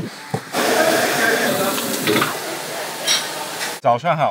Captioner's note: wok sizzling